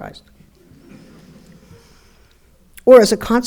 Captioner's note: audience laughing